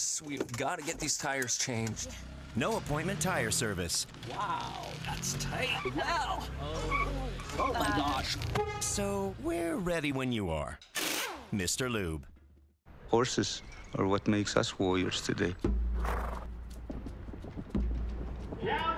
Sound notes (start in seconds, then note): 6.0 mumbling and tires repeatedly screeching; 8.4 car horn honking; 15.9 horses galloping; 16.0 horse snorts